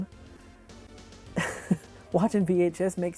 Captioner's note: laughs